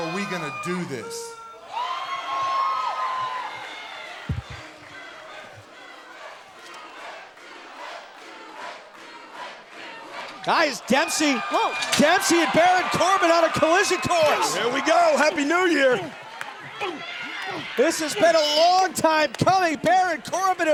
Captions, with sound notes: OR ARE WE GOING TO DO THIS? [FANS CHANTING] >> GUYS, DEMPSEY -- >> WHOA. >> DEMPSEY AND BARON CORBIN ON A COLLISION COURSE. >> HERE WE GO! HAPPY NEW YEAR! >> THIS HAS BEEN A LONG TIME COMING.